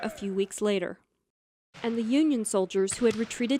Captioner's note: gunshots